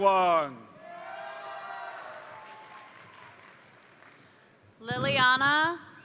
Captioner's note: crowd cheering; crowd applauding